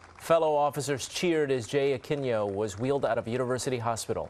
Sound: applause

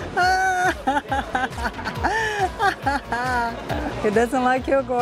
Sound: laughs

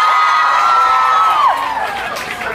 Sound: cheers

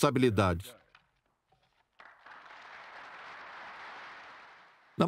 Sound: applause

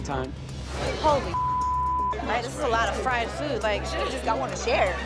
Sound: beep

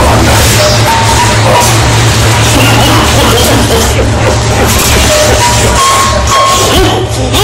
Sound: coughing

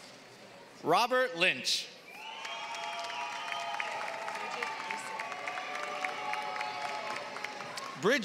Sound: applause

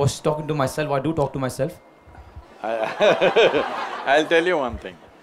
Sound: laughter

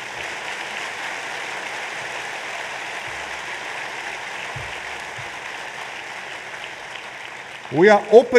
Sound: applause

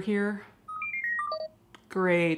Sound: techno beeping

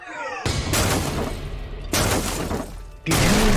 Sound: gentle music; hammer pounding

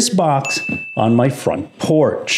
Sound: bell chimes

